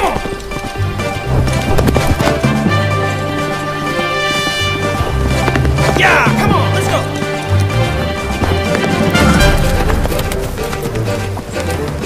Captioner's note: whinnies